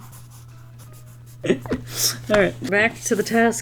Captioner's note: giggles; chuckles